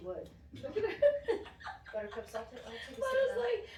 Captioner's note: laughter